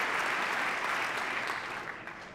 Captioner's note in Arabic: تصفيق